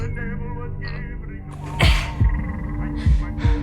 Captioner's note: Riley grunting